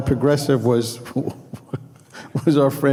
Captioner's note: laughing